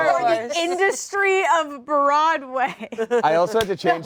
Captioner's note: laughs